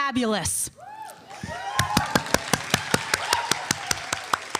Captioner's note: audience applauding